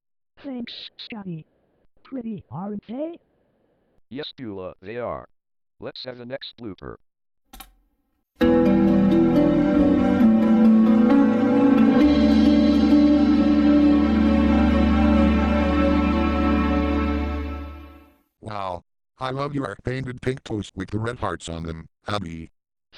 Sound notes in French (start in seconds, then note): 7.4 cliquement sur la barre d'espace, musique en cours